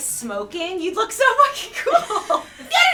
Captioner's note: laughs